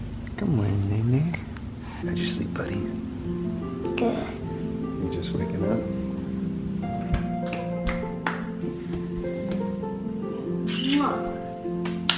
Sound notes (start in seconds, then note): 7.1 kids clapping; 7.2 peaceful music; 11.8 kids clapping